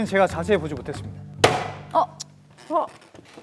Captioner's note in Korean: 쾅 치는 소리